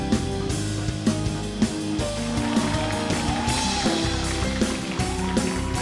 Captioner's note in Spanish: Ovación